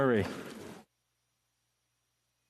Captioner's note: speaking French